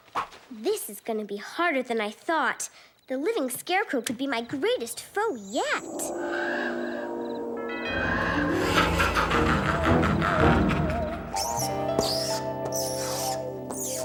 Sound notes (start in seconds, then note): 8.7 cackling; 12.7 chalk screeches